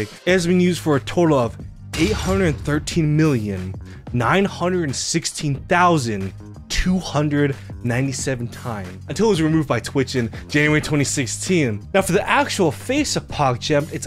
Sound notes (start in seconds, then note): none